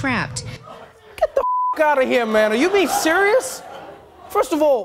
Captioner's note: beep